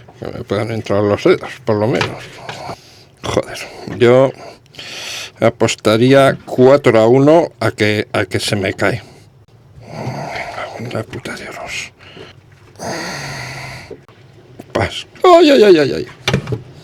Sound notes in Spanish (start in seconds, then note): 4.1 resoplido; 9.7 gemido